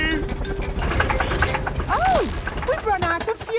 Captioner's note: helicopter engine sputtering